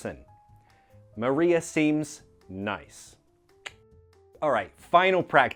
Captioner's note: clicks tongue